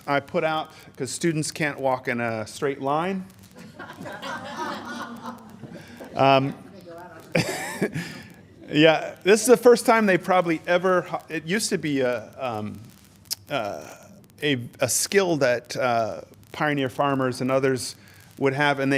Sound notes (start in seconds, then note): 3.5 laughter